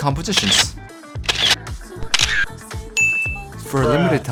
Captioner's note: snapshot sounds